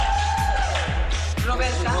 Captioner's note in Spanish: aplausos